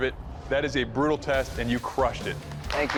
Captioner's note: clapping